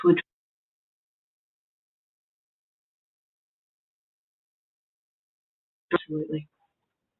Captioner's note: audio fades